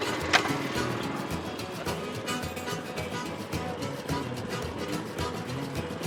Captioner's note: upbeat bluegrass music; blueberry picker rumbling